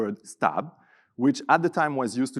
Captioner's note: speaking in a foreign language